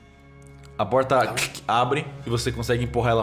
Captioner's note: click